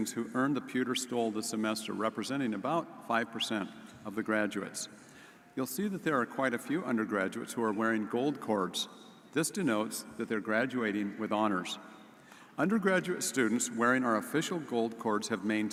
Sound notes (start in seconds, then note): none